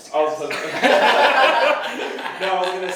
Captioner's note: laughs